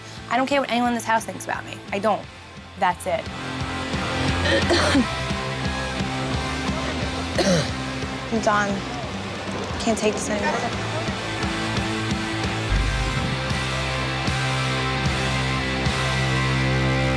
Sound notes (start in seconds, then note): 4.4 coughs; 10.8 rock music